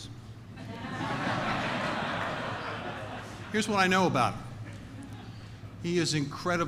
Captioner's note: laughter